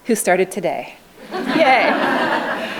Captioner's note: laughing